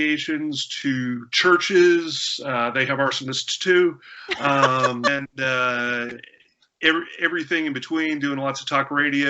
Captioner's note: laughter